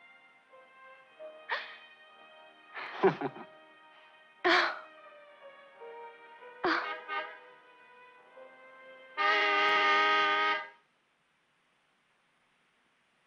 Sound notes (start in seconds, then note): 2.8 both chuckling; 6.8 car horn honking